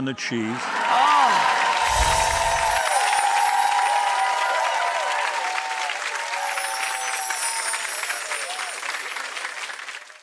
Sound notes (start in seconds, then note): 0.7 audience cheering